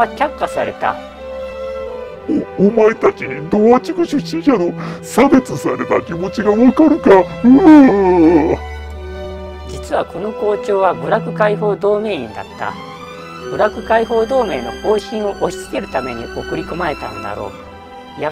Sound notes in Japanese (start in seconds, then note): 7.4 嗚咽